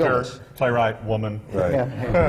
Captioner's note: laughter